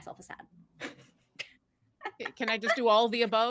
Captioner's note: laughing